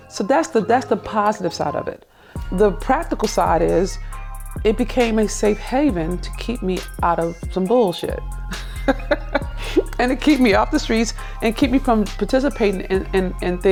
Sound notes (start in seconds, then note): 8.4 laughs